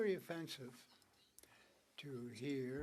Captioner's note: speaking French